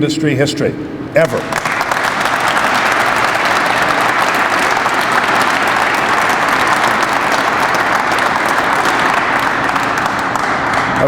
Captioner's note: crowd applauds